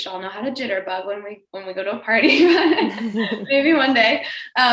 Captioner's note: laughs